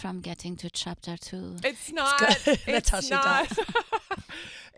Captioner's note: laughs